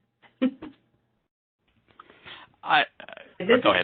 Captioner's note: chuckles